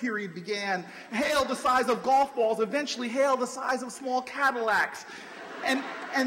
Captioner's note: laughter